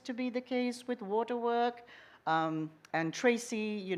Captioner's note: none